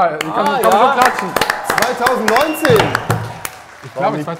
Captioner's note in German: Jubel, Pfiffe